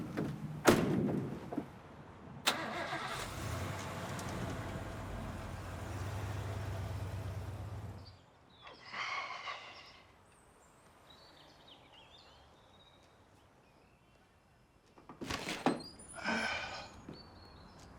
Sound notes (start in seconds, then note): 2.2 sighs; 2.4 engine starts